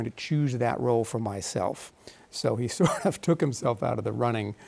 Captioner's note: chuckles